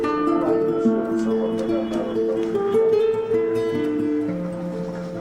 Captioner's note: speaking in foreign language in the background